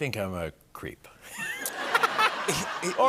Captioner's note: laughter